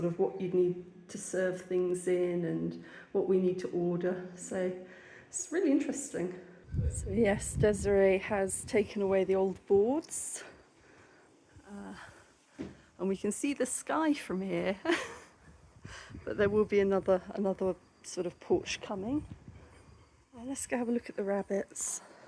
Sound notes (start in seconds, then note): 15.2 laughing